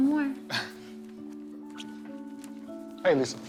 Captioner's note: kisses